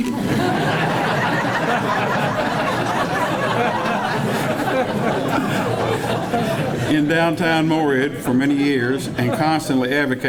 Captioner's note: 8 seconds of laughing